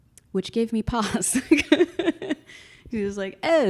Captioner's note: laughs